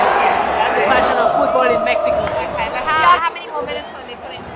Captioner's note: stadium Chanting